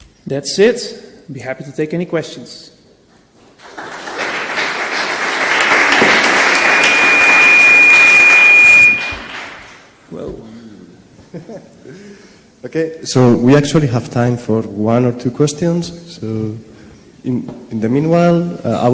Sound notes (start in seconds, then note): 3.6 applause; 7.7 high pitched ring